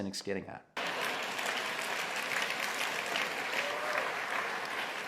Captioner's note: crowd clapping